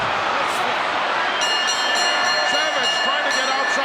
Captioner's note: bell ringing